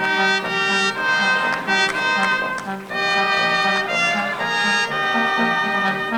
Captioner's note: audience applauding; music drowns out singing